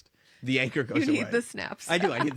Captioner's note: laugh